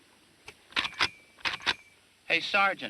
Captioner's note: gun cocking